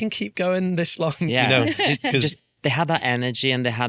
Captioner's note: laughs